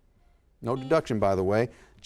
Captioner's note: buzzer sounds